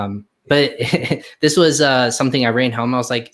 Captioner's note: laughs